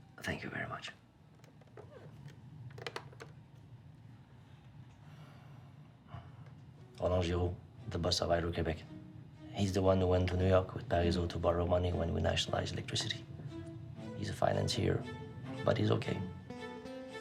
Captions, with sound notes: Thank you very much. (speaking foreign language) The bus arrived in Quebec. He's the one who went to New York with Parizeau to borrow money when we nationalized electricity. He's a financier, but he's okay.